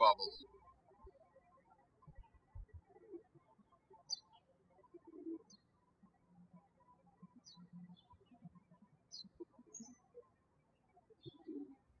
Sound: birds chirping

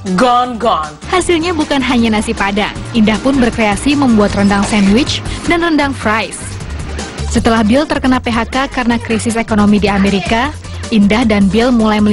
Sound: non-english speech

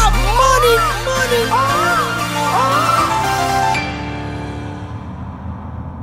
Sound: man imitates bird cawing

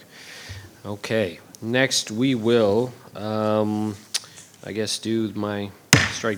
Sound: gavel bangs

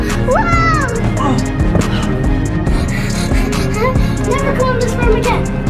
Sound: intense music continues; grunts

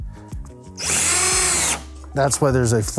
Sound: drill whirring

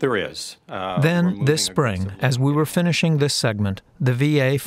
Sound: voice-over

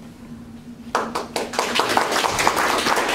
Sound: applause

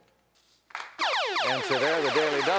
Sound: electronic sound

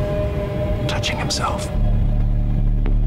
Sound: whispers

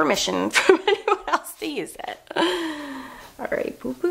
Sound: laughs

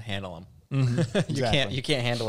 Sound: laughs

